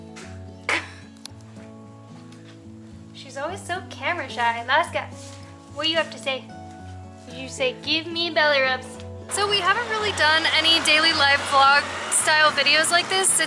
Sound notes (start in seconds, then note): 0.6 laughter